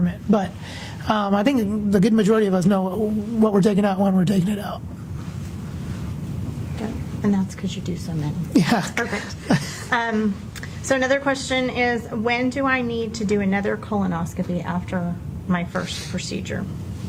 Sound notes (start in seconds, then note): 8.6 laughs